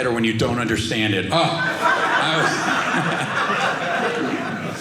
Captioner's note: audience laughing